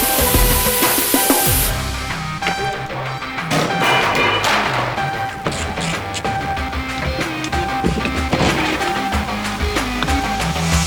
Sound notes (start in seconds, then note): 3.5 clanking